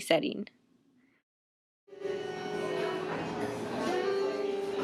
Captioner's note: chatter